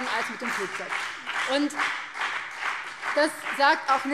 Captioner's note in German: Beifall BÜNDNIS 90/DIE GRÜNEN